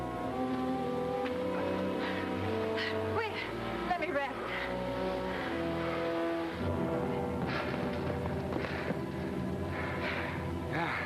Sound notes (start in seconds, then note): 5.3 panting; 7.0 group panting